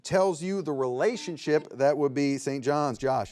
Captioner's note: buzzer beeps